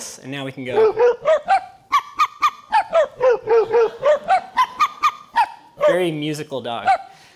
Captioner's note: high and low pitched dog barking